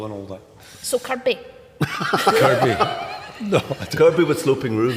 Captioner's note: laughs